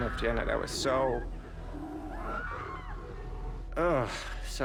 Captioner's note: screaming